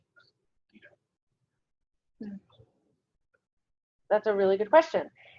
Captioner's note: speaking away from mike